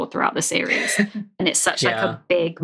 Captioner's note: laughs